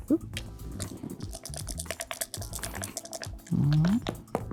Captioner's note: dice rattling; dice rolling